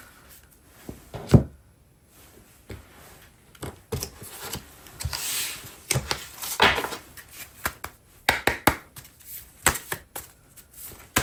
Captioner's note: drawing cards